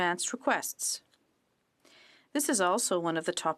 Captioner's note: speaking french